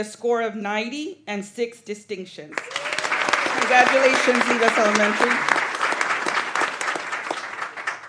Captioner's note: applause